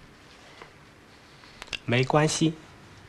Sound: speaking in Chinese

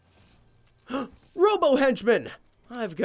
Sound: gasping

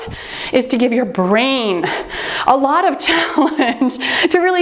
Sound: laughing

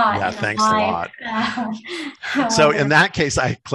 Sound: laughter

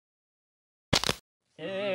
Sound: neckSnapSound.mp3

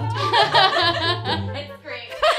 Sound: laughs

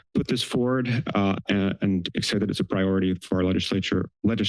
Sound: stammers

